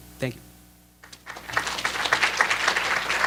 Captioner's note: applause